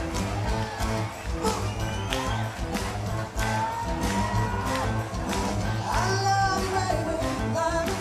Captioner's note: cheers